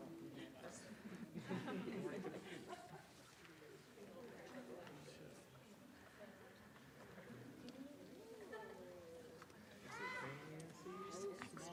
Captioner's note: chuckles